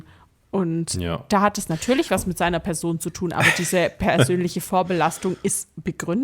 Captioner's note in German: gelächter